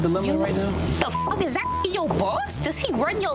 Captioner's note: beep